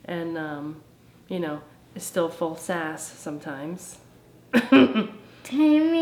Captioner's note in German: lacht